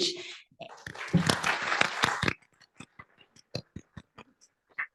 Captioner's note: applause